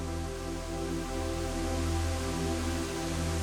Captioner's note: rush of water